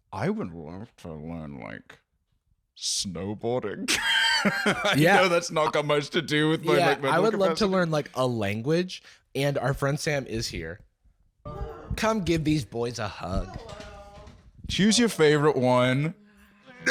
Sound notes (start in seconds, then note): 3.9 laughs